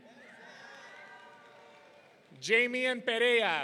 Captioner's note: audience cheering